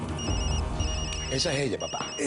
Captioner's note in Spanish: Suena el celular